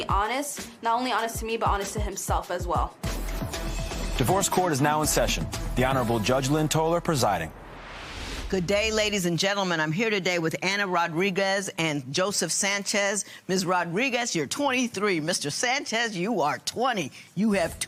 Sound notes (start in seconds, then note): none